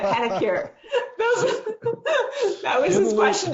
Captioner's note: laughing